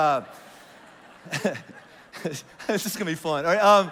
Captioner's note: congregation laughs